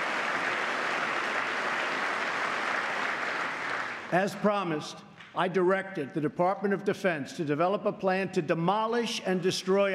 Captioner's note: applause